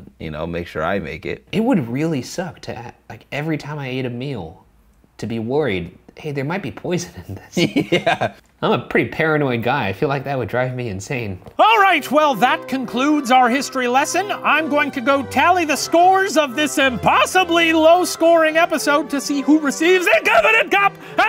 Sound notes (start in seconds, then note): 7.5 laughs